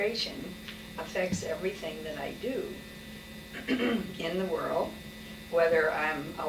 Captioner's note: clears throat